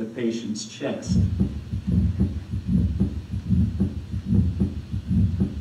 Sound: heart beating

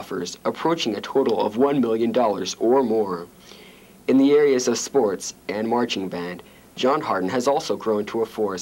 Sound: none

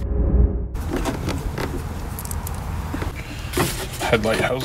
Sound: mechanical noise

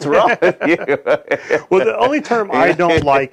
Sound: chuckling

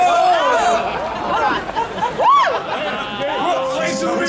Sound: audience laughing

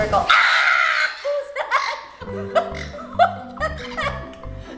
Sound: laughter

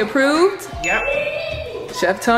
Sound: dinging

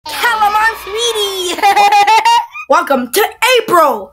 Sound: laughing

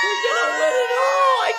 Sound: family cheering

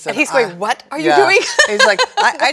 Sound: laughs

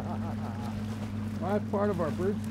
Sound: laughing

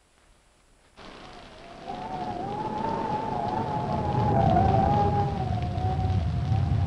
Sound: thunder rumbling; wind howling

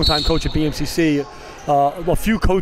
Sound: whistle blows

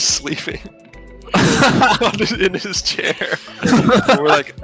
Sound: laughing

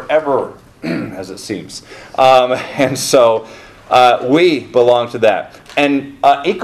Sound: clears throat

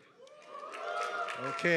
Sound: applause

